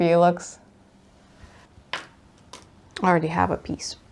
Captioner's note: floss bobbin clatters